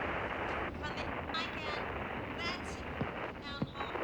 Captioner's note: static